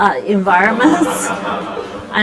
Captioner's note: laughter